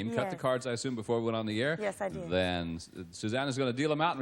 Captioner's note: none